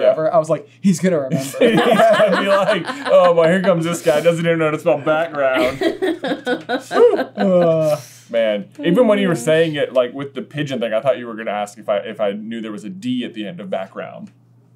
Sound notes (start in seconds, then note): 5.0 laughter